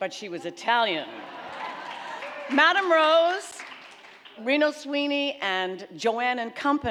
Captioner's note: audience clapping